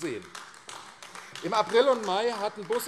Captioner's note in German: Beifall AfD